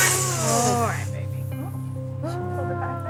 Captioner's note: cat meows